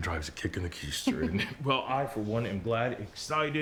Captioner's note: Rachel chuckles